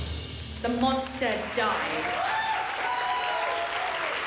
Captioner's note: dramatic music swells; applause, cheering